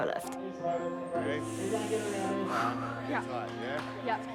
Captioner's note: inhales and exhales loudly